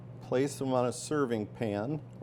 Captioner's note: none